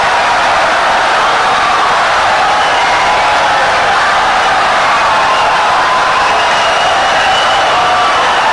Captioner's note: wild applause and cheering for 17 seconds